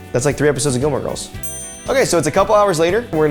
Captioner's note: timer dinging